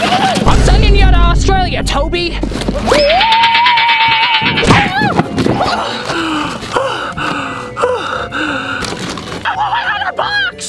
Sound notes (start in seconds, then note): 2.9 screams; 4.7 box thuds